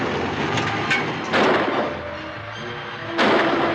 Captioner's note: gun firing; suspenseful music